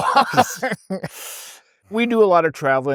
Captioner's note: laughs